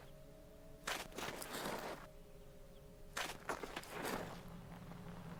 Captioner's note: metal scraping